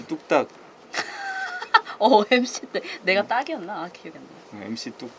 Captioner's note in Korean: 웃음